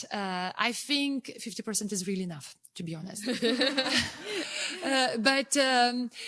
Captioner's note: laughing